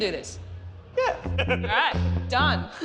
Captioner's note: laughs